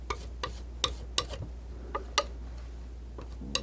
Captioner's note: scratching